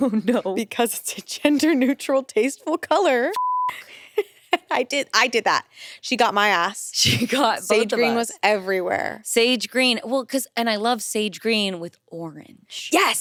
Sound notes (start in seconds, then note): 0.3 chuckles; 3.3 beep